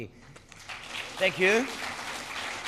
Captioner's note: applause